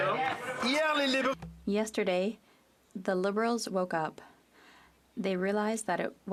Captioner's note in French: voix de l'interprète